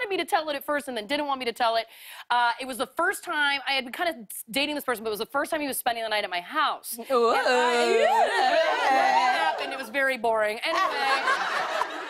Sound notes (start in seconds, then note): 7.4 audience "Ooh"s; 10.7 laughter